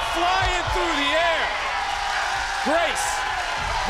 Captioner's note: crowd cheering